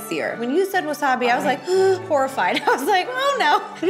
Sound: gasp

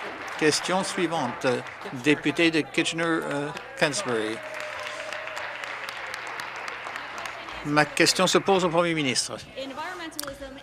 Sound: some Applause

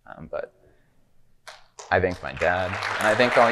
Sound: audience clapping

